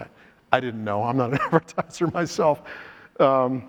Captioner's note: laughs